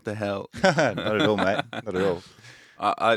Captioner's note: laughing